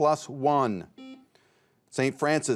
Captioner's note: buzzer beeps